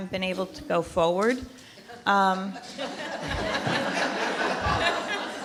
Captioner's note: laughter